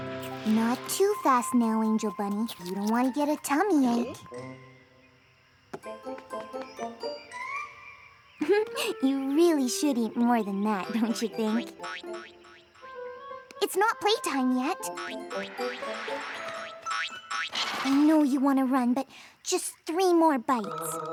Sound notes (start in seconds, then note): 8.4 chuckles; 11.7 boing! boing! boing!; 14.9 boing! boing! boing!